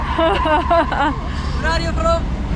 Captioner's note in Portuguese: risos